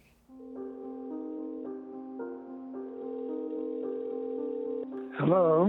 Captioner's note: phone ringing